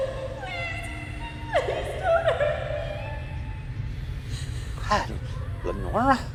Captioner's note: sobs; sobs